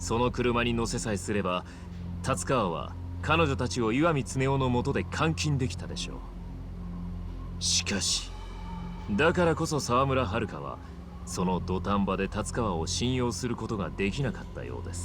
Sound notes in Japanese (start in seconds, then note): none